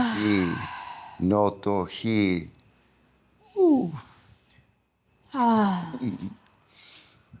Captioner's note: sighs; sighs